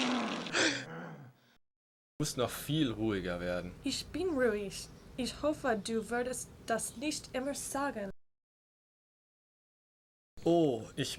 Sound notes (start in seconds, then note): 0.0 monster groaning; 2.4 speaking in foreign language